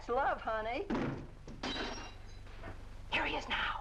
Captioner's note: door smashes